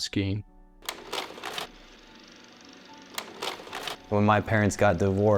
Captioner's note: sound of projector